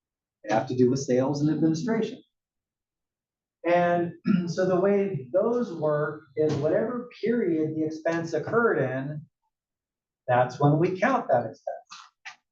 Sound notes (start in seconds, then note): 4.2 cough